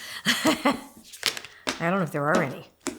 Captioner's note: laughing